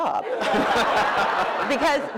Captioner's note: laughter